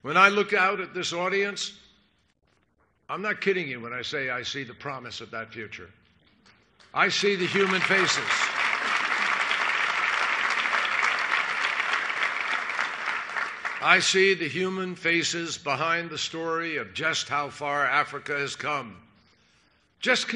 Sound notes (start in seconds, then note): 10.9 applause